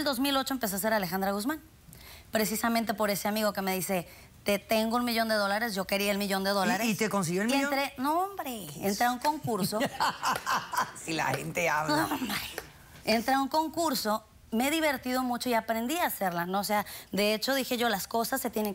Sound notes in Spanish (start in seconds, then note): 9.4 risas